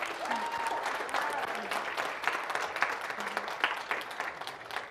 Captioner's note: audience applauding